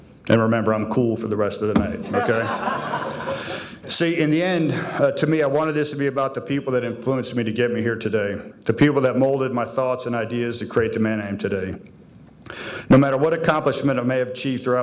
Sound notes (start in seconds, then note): 2.0 audience laughing